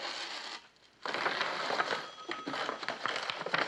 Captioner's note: Telefon çalıyor